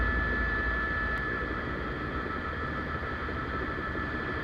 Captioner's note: helicopter